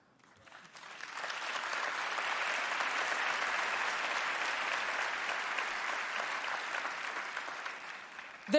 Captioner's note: applause